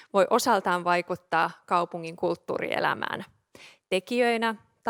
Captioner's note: none